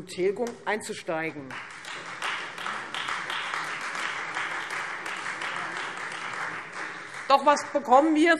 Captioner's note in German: Beifall Freie Demokraten und vereinzelt AfD